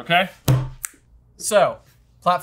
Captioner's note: snaps